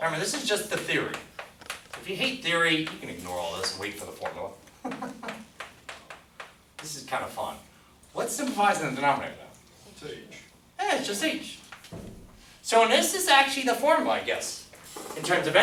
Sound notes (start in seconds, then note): 10.4 voiceover